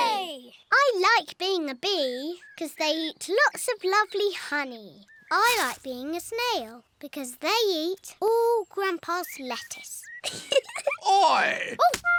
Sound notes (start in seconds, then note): 10.2 giggles